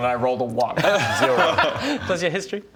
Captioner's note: useless laughter